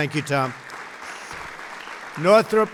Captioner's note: applause